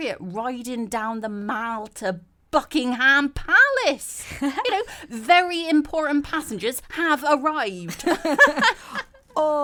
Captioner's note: all laugh